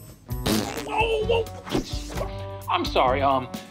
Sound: whoopee cushion farts

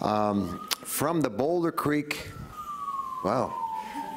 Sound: siren wailing

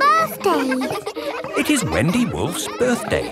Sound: kids laughing

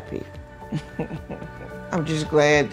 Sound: laughing

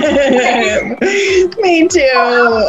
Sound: laughter

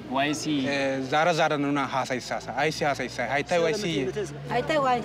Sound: speaking foreign language

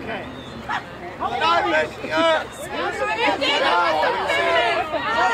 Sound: crowd yelling

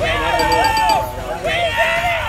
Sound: ding-ding-ding-ding

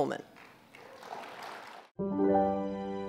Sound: applause; gentle music

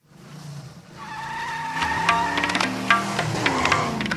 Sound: car tires squealing

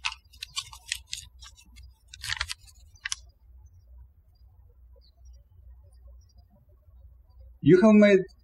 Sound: birds chirping

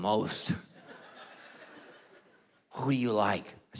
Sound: congregation laughing

